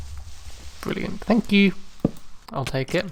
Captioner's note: sarcastic tone